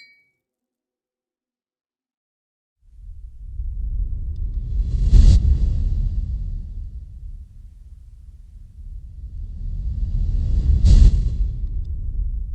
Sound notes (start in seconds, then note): 0.0 glasses clink; 5.1 low whoosh